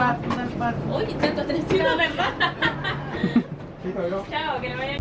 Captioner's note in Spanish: risas